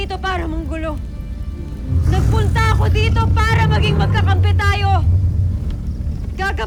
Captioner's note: guttural roar